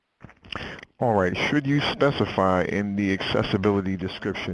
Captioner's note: voiceover